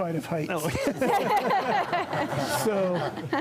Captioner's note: laughter